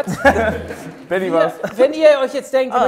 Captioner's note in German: Sie lachen